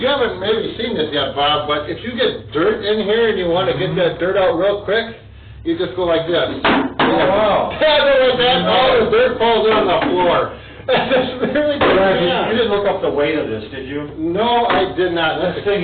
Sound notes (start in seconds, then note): 10.6 laughs